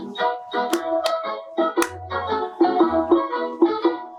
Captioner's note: upbeat music; hands clapping